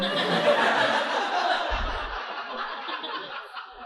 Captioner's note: audience laughing